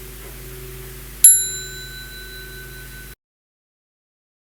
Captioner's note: small bell